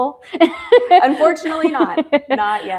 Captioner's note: laughs